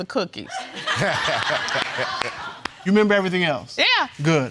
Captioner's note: all laughing